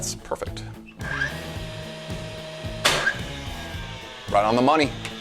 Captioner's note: nail gun buzzing